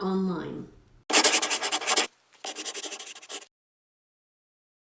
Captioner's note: scribbling